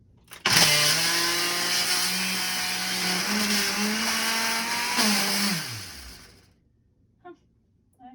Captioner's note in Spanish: Sonidos de molienda del procesador de alimentos